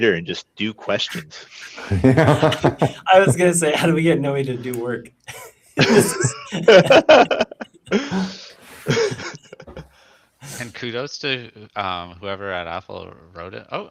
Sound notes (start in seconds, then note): 1.0 laughs; 9.0 laughs